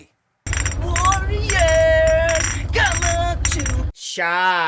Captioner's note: bottles clinking